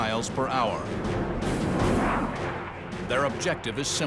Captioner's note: engines blaring